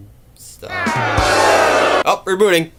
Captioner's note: rimshot; crowd boos even louder this time